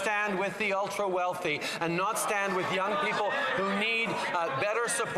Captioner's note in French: voix de l'interprète